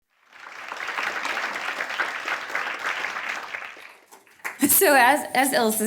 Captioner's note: audience applauding